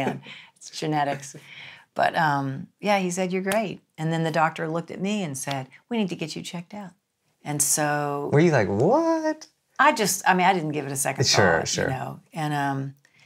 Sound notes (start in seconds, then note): 10.1 gasps; 11.2 laughs